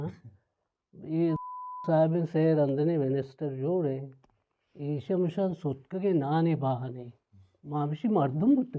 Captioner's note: beep